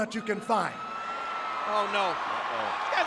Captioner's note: audience cheering